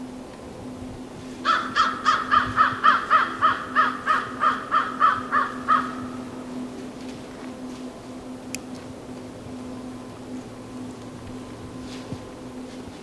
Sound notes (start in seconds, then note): 1.4 crow cawing, footsteps heard in the leaves